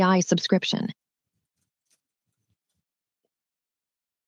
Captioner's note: silence